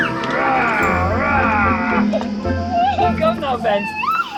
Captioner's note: playful growling